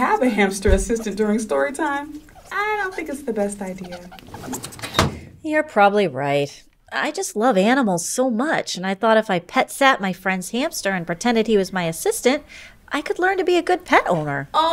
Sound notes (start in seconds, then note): 4.5 file cabinet closes